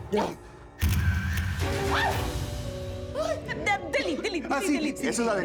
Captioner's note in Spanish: Ruido de la cámara